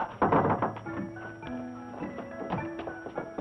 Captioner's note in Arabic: طرق على الباب